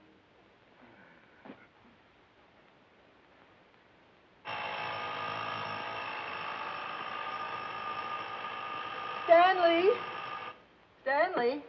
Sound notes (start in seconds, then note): 5.7 alarm clock